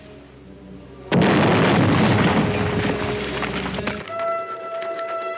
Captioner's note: explosion booms